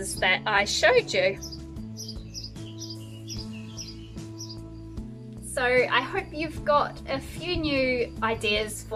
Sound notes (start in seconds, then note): 1.6 birds chirping; 1.6 upbeat music